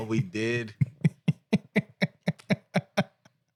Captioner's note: laughing